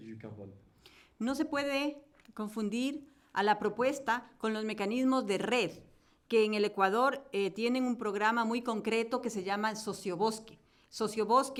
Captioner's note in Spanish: Español